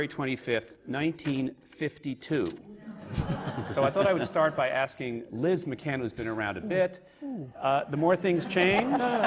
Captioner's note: laughter